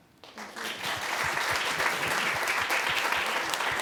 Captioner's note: applause